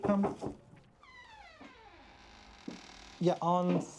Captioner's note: knock on door